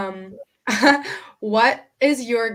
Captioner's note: laughing